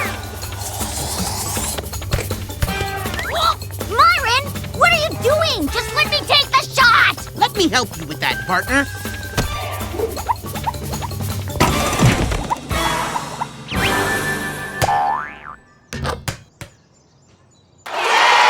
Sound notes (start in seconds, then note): 9.4 slap; 11.6 crash